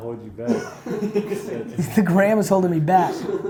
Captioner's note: laughs